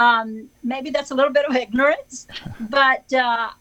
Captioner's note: chuckles